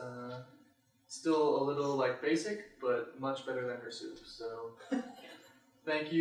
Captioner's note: laughter